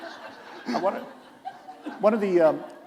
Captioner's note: laughter